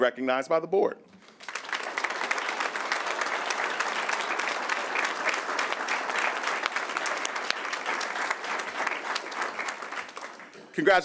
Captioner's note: applause